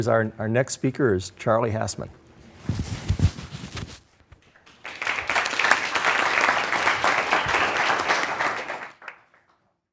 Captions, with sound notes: Okay. Our next speaker is Charlie Hasemann. (audience applause)